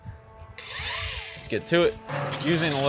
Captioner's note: machine whirring